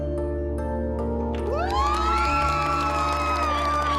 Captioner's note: applause and cheering